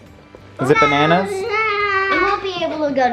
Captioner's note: child babbles